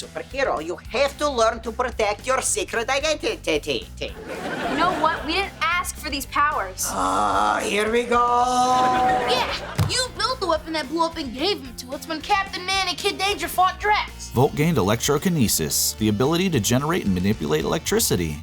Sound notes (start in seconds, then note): 6.8 sighing